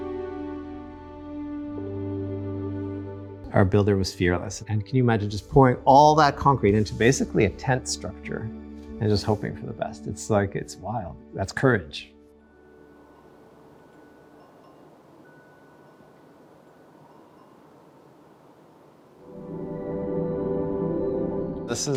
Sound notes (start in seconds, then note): 0.0 ethereal music; 12.4 wind chimes chiming; 20.3 ethereal music